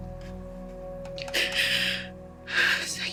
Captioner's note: Ally sighs